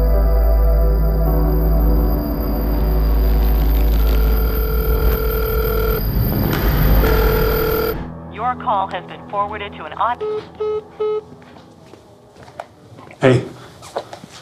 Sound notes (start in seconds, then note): 4.1 cell phone ringing